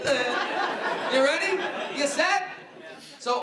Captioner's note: laughing